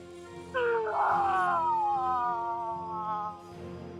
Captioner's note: screaming; soft dramatic music